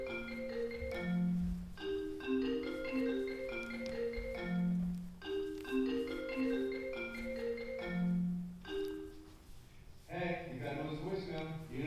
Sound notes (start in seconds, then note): 0.0 phone rings